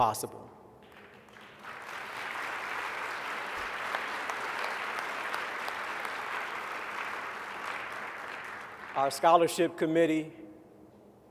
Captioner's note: applause